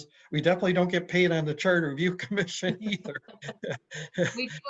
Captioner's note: laughs